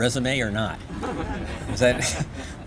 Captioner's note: laughter